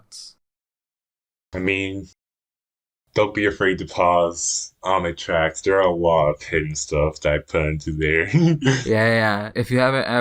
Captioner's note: laughs